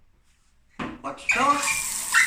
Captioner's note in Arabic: رشرشة المي